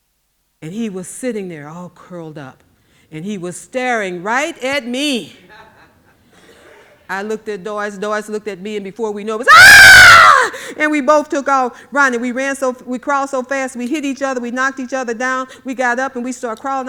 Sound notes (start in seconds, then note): 5.5 audience laughing; 9.4 screaming